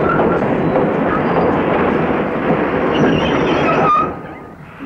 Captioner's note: train brakes squealing